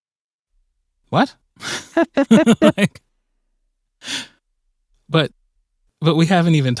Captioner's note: laughter